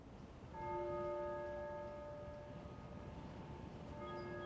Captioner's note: bell ringing